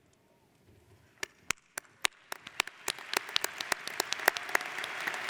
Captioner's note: audience applauds